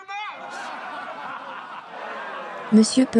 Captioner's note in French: des rires